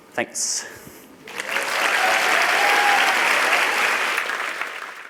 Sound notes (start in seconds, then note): 1.2 applause